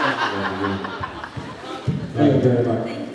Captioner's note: laughs